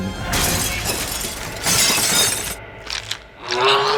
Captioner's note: glass shattering; dinosaur bones roaring